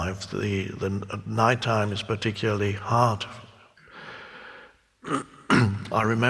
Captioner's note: clears throat